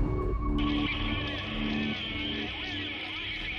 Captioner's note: man on radio